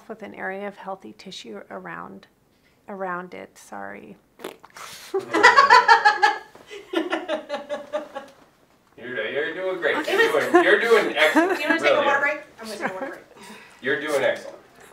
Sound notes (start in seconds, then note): 4.3 blows raspberry; 5.1 people off camera laugh